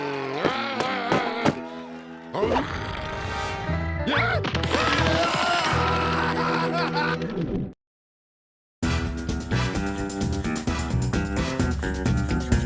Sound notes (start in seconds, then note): 2.4 rabbits growling; 6.5 screaming